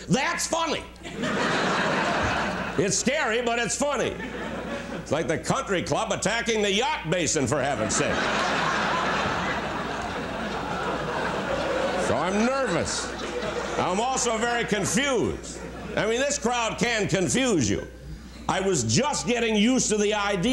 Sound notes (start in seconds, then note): 3.5 laughter; 11.2 laughter